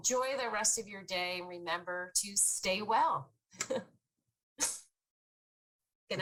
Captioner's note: chuckles